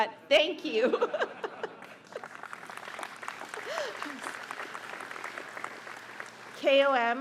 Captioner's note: laughter; applause